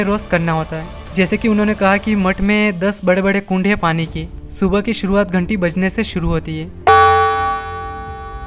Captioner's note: bell